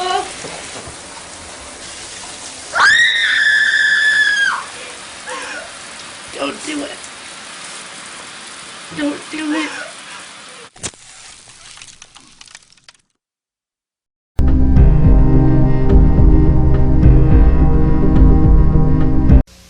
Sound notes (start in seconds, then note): 2.7 girl screams